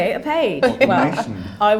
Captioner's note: laughs